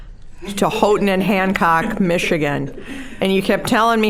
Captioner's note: laughing